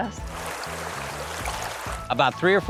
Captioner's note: river flowing